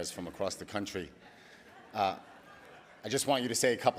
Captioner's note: audience laughing